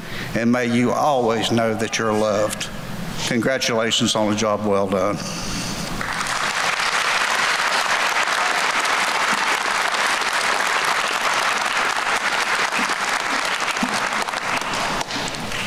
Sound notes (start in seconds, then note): 6.0 applause